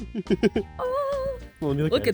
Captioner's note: off-key victory noises